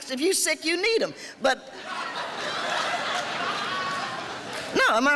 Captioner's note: laughing